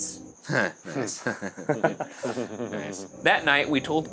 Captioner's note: both chuckle